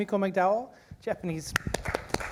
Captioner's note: applause